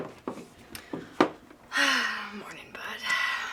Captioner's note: sighs